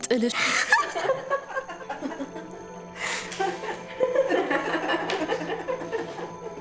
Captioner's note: laughter